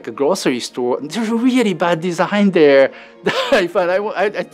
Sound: laughs

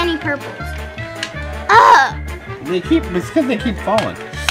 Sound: groans

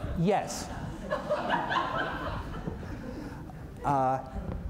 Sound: laughter

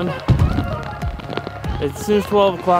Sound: thump

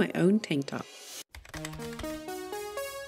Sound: keyboard typing; music rises

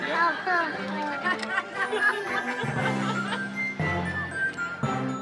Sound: bright festive music; women laughing

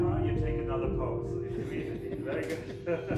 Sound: laughs

